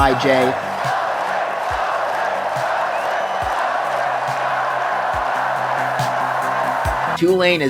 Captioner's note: tulane student section chanting tyjae's name